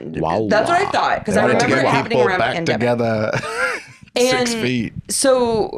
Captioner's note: laughs